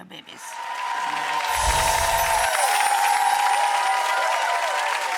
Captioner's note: audience cheers